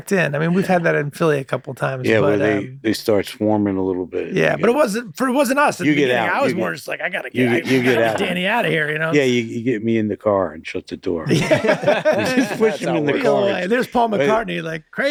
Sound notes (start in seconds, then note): 11.3 all laughing softly